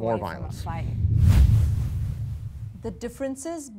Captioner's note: whooshing sound